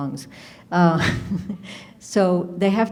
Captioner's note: laughs